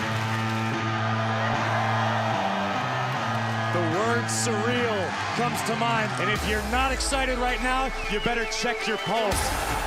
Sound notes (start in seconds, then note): 2.2 cheers & applause